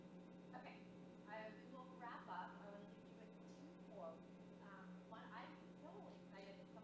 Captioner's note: speaking off microphone